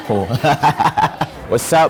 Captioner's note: laughing